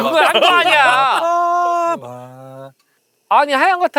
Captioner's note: humming